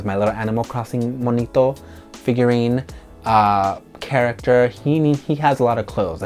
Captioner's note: speaks in foreign language